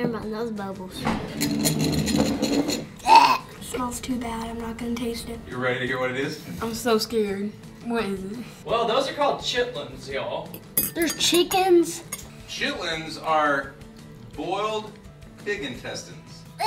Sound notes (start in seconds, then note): 2.9 gags